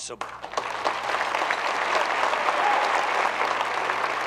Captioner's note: group clapping